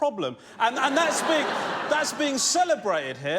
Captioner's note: laughter